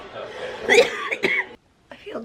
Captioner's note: coughing